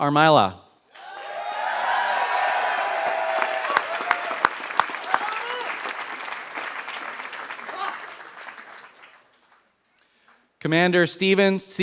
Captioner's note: applause